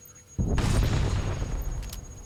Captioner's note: gunshots